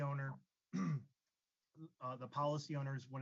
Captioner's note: clears throat